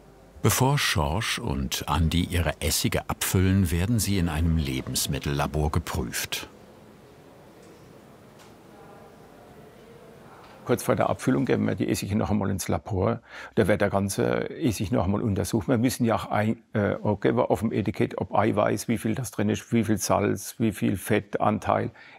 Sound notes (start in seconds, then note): 6.7 quiet murmur of voices